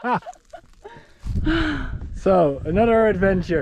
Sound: both laughing

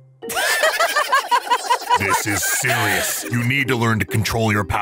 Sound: all laughing

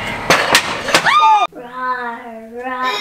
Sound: screams

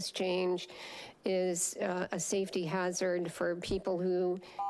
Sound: beeping

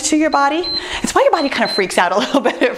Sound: timer beeps

